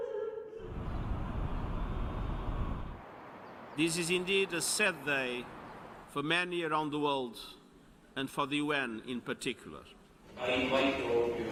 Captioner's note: crying